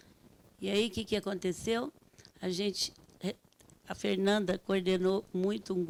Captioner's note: speaking Portuguese